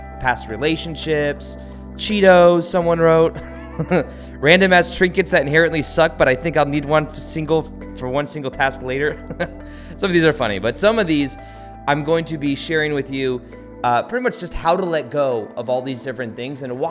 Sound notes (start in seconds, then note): 3.4 laughs; 9.2 laughs